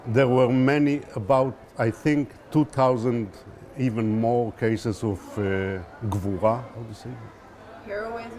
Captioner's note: hebrew